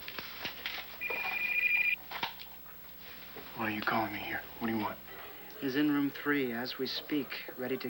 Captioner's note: telephone rings